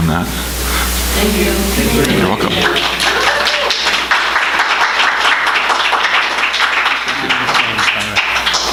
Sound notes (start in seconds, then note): 2.4 applause